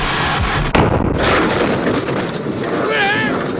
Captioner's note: explosion booms